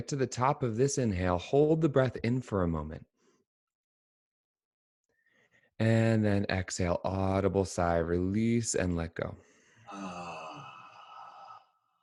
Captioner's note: sighing